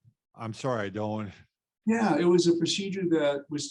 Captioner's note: laughs